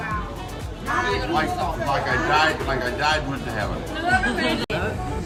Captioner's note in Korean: ㅋㅋ